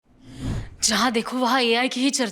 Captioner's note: speaking hindi